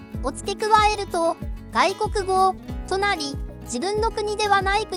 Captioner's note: foreign language